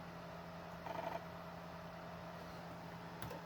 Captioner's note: laptop floppy drive sound